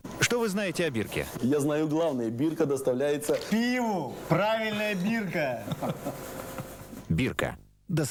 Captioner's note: laughter